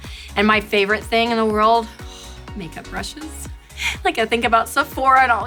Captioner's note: sighs